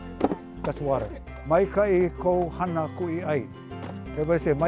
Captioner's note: speaking Hawaiian